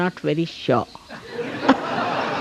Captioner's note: laughs